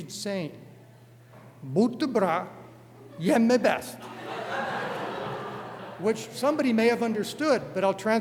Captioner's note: non-english speech